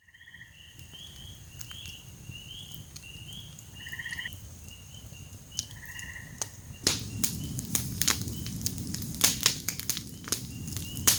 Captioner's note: crackling fire & wilderness & frog sounds